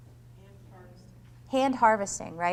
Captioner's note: voiceover